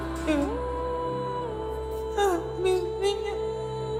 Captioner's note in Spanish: Sollozos